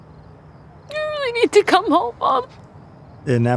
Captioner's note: crying